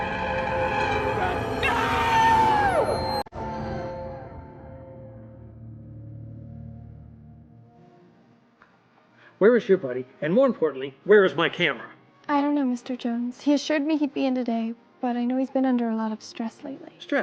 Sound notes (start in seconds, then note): 1.8 Simon screaming; 7.0 gentle music